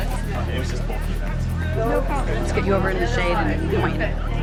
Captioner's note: crew chatters